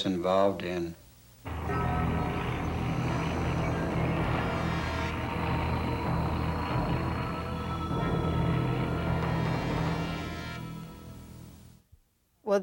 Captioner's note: drone of plane overhead and dramatic music